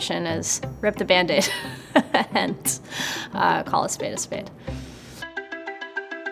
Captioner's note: chuckles; upbeat music